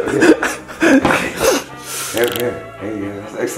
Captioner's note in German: Gelächter